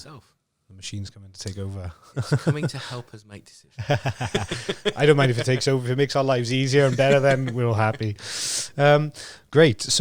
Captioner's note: laughing